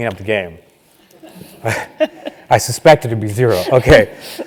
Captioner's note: laugh